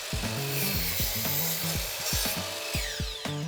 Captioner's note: whirring